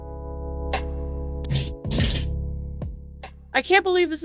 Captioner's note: loud shitting